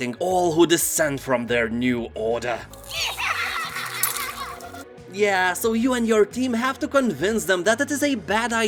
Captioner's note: aliens laugh